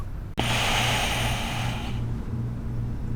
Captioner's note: hiss of door opening